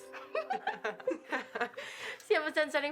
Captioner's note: Mackenzie giggling; Jordyn laughing